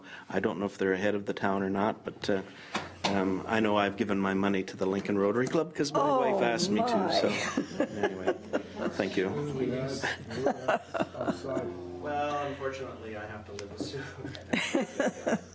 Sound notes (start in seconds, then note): 10.0 laughing